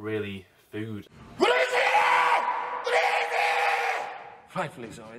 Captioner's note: shouts